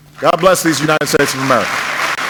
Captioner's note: applause